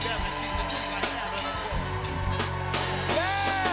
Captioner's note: cheers and applause